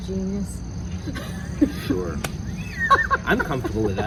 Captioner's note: laughs